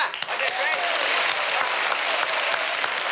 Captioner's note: applause